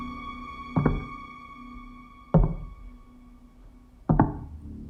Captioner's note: distant walking